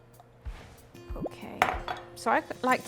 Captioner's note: air whooshing